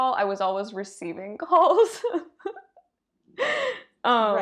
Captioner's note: giggles